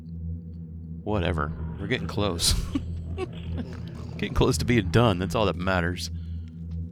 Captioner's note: laughs